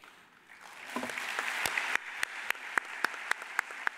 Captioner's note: audience applauds